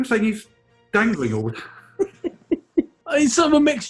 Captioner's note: giggling